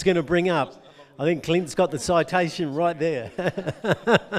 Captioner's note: laughs